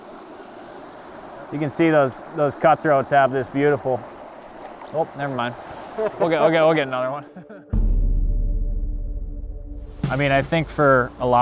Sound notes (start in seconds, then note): 4.0 fish flops into water